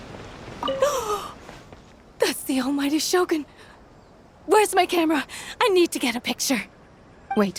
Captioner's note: gasp